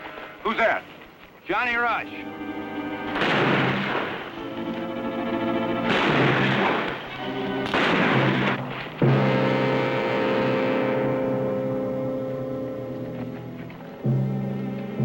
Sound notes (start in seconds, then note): 3.0 gunfire